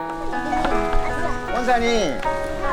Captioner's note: kids talking